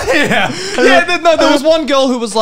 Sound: men laughing

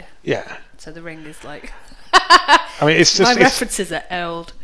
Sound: laughs

